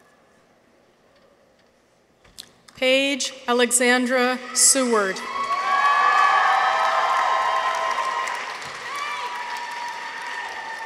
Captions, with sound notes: Paige Alexandra Seward. -(people cheer) -(audience applauds)